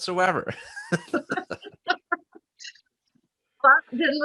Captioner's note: both laughs